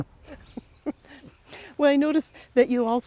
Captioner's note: chuckles